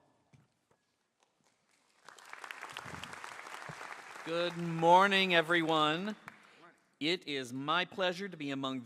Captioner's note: applause